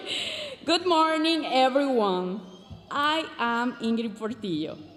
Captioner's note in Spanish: hablando en inglés